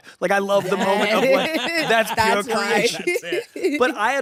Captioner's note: laughter